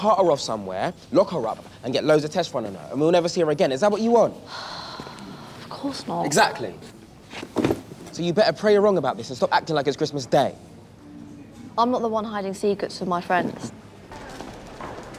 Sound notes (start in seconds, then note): 4.4 sighs